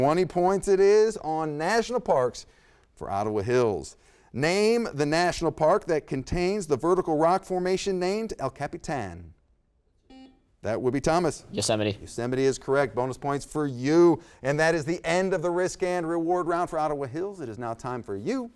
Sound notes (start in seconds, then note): 10.1 buzzer beeps